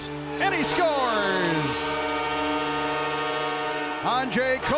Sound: horn blaring

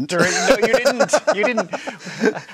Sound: both laugh

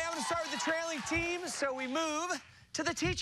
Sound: cheers and applause

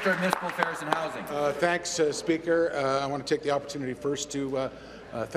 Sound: applause

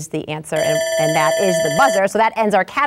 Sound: buzzer ringing

